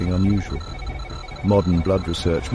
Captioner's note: beeping